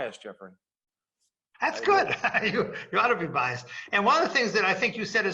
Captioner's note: laugh